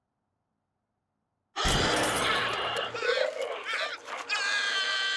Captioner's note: screaming